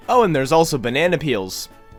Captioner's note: none